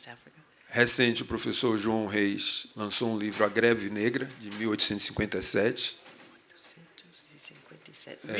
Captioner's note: speaking portuguese